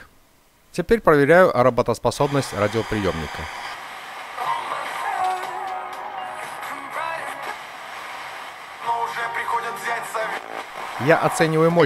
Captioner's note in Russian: звучат радиошум и радиостанции